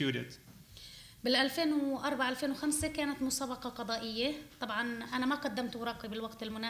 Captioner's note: speaking arabic